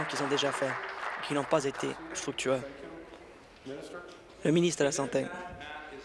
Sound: applause

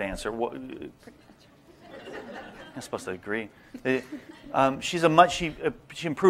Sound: laughter

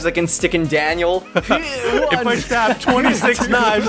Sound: laughter

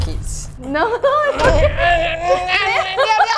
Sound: grunts

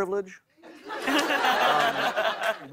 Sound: laughter

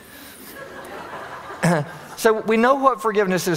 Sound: audience laughing

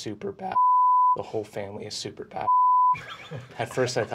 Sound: beeping; beeping

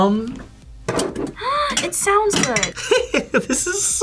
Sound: gasps; laughs

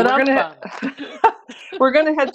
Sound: laughs

